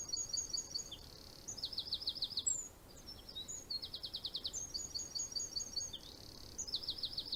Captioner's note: bird singing